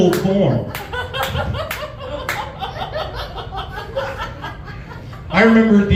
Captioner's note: laughs